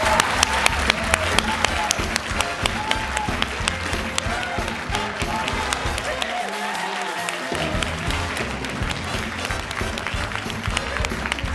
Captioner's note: cheering and Applause